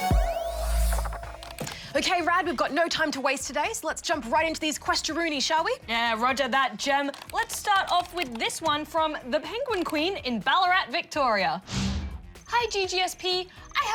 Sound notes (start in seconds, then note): none